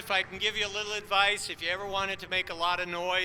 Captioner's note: applause